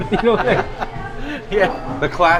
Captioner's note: laughs